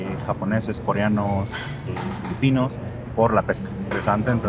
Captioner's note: speak in Spanish